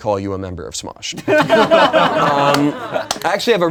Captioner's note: laughing